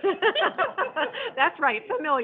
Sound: laughing

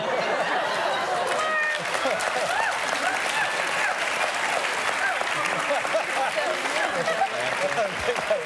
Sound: laughter; applause

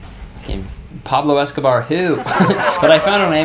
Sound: audience laughing

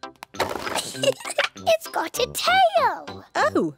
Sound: giggles

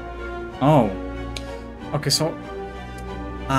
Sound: click

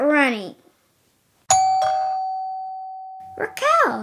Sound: doorbell rings

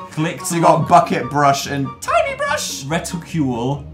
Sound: high pitched voice

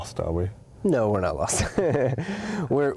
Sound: laughs

